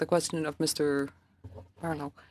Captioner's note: speaking French